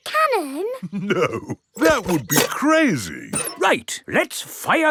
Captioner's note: chuckling